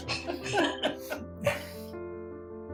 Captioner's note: both laughing